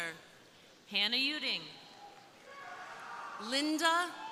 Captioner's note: crowd cheering